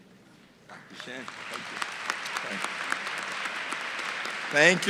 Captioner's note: applause